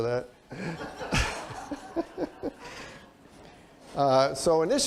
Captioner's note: laughter